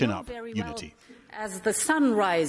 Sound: through translator

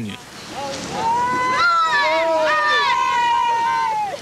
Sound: shouting

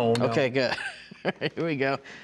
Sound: laughing

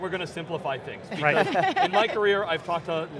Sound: laughter

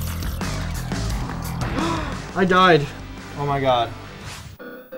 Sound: gasp

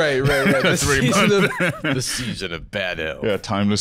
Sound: deep voice

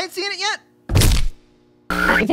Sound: thud

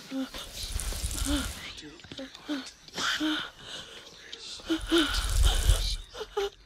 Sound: whispering

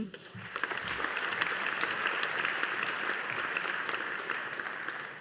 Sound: audience applauding

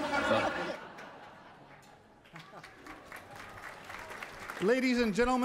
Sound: laughter and Applause

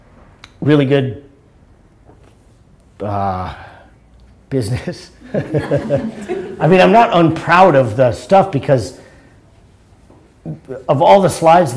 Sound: laughter

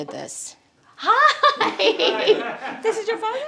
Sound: laughs

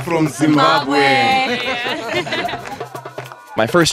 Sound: laughter

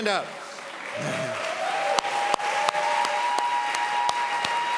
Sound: audience applauds

